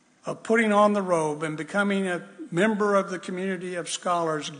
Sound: none

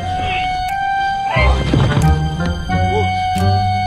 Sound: grunting

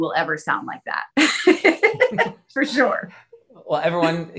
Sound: laughs

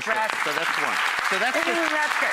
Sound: audience applause

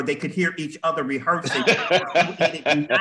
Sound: laughter

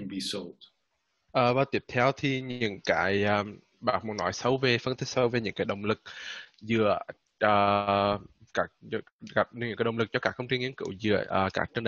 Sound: speaking Vietnamese

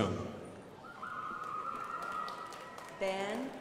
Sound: crowd applauding

